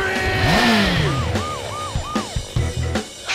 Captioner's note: siren wails